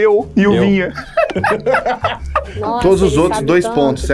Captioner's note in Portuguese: risadas